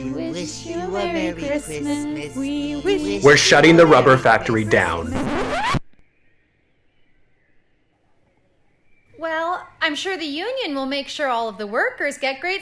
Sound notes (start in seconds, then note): 5.4 record scratch